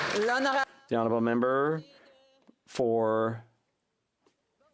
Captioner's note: some Applause